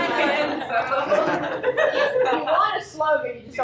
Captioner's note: laughter